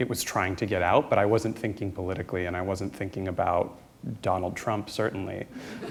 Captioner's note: laughter